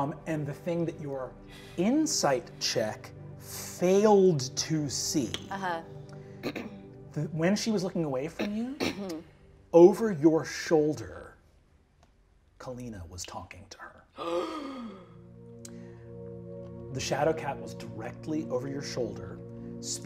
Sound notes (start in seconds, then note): 14.2 gasps